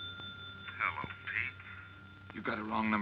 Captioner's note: on phone